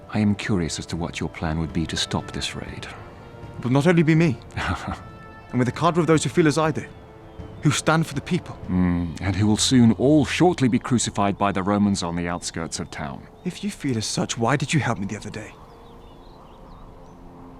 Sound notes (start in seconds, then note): 4.5 chuckles